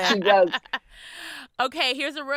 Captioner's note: laughing